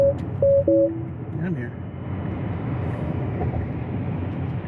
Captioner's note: intense beeping